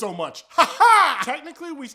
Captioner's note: weird laughing